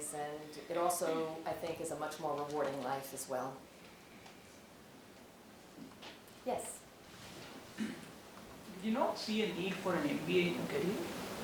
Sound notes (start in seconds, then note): 7.7 cough